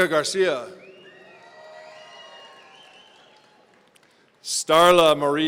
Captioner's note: audience cheering